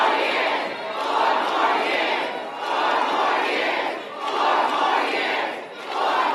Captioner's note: applause